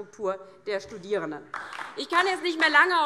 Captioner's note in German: Beifall DIE LINKE